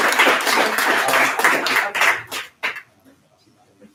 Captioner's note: applause